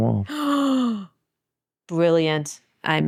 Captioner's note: gasps